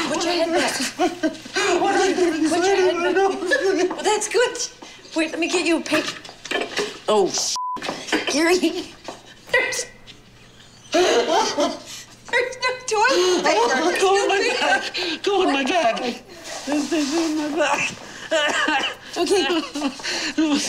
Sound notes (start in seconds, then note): 7.5 beep; 10.3 laughing; 17.6 coughing